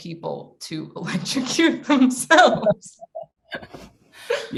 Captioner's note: laughs